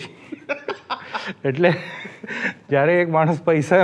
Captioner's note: laughs